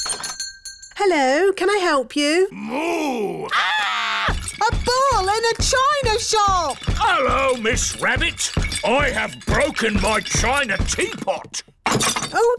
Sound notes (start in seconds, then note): 0.0 shop bell rings; 3.0 screams; 4.2 thumping